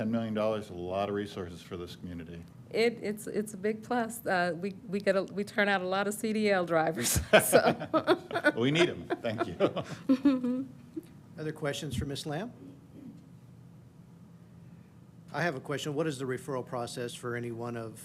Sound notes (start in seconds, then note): 10.5 laughter